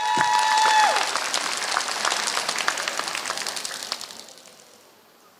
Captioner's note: applause